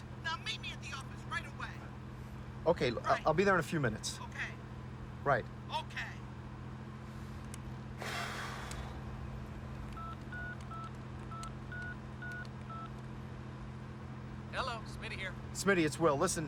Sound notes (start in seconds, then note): 8.0 Will sighs; 9.9 telephone keypad bleeps